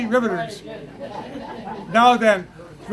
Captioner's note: laughter